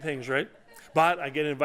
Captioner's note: laughter